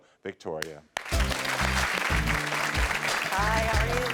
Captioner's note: audience clapping; upbeat music